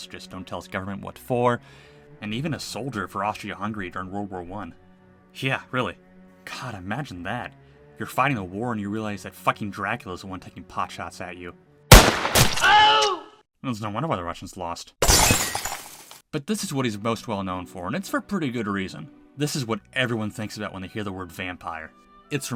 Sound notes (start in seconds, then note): 11.9 gunshot; 12.6 funny Scream; 15.0 glass Shattering